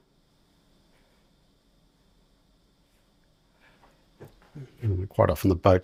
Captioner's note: silence